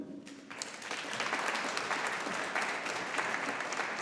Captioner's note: audience applauding